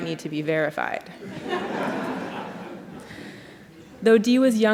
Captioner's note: laughter